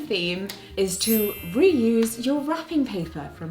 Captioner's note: magical chiming